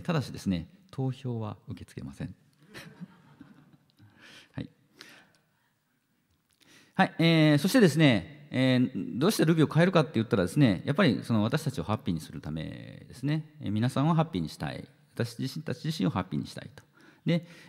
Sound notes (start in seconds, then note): 2.6 laughter